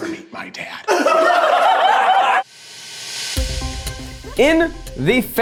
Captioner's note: everyone laughing